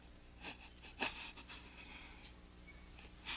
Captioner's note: crying